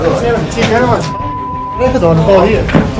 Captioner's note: excited voices, beep